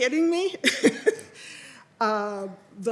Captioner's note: laughs